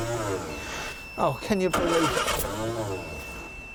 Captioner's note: electronic beeping